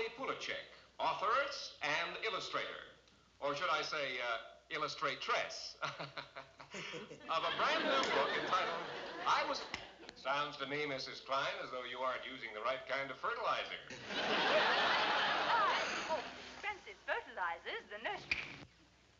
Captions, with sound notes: Placzech, authors, and Illustrator or should I say illustrate trace. [LAUGHTER] Of a brand new book entitled "I 'was-- Sounds to me Mrs. Klein as though you are using the right kind of fertilizer. I hope Benson's fertilizer is the ne--